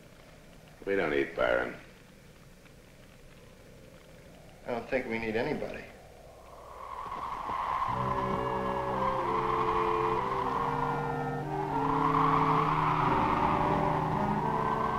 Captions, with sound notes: We don't need Byron. - I don't think we need anybody. (wind howling) (slow, tense music)